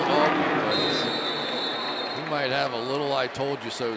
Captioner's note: whistle blowing